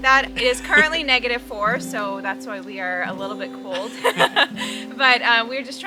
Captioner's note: ha ha ha